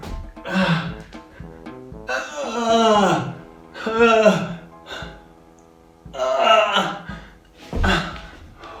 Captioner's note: groaning